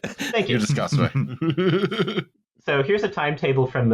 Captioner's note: laughs